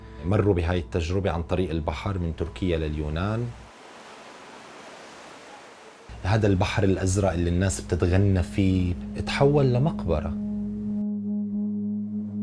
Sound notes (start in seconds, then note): 3.2 waves crash